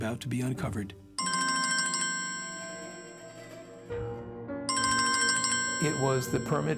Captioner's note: phone ringing